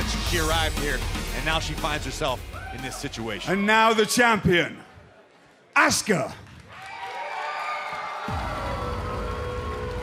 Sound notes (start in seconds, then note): 6.5 crowd cheering